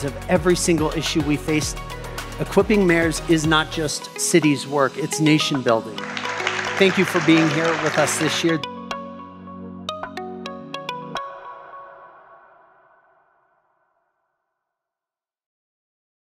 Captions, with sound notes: of every single issue we face. Equipping mayors is not just cities' work. It's nation building. (audience clapping) Thank you for being here with us this year. (gentle upbeat music) (gentle upbeat music fades)